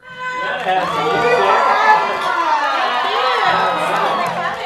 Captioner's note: cheering